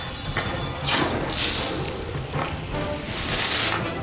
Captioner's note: water sloshing